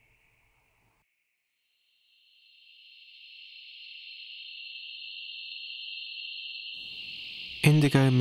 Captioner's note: high wavering tone